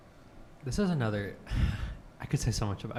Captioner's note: sighs